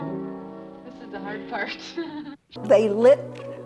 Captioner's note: laughs